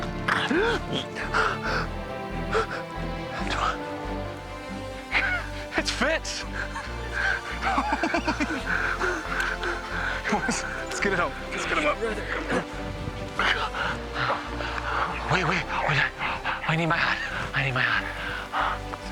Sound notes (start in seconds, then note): 0.3 gasping; 8.5 chuckling; 14.6 fitzpatrick panting heavily